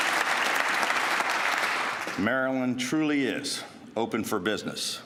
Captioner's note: applause